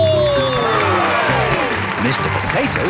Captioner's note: cheering